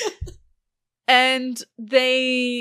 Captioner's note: laughter; laughing